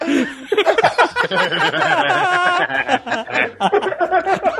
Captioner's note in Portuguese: risos